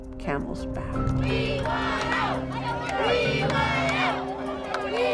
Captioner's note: chanting